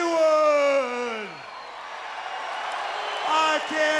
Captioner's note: audience jeering